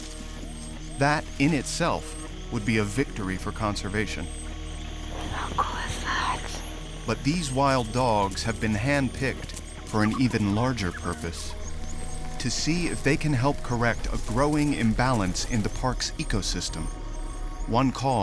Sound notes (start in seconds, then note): 5.0 quietly